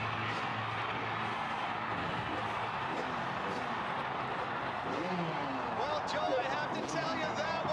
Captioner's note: cheering